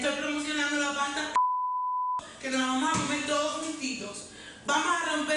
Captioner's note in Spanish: Bip